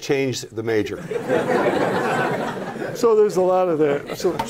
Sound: laughter

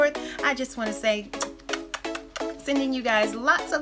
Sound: lips smacking

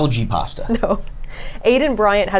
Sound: laughs

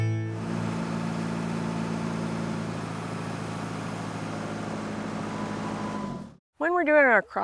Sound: tractor Motor Running

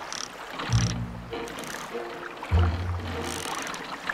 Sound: fishing line creaking

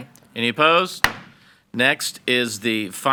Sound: gavel bangs

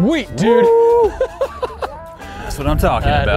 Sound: laughs

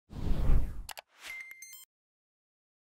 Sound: whooshing

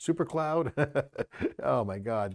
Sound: laughs

